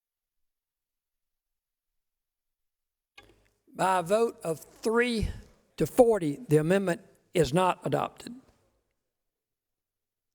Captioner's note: pounding of the gavel